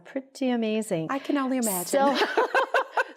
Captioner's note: laughter